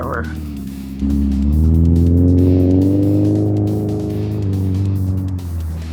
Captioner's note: engine revving